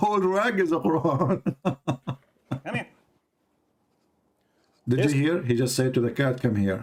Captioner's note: Ketawa